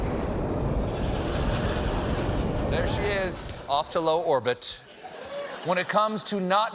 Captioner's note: explosion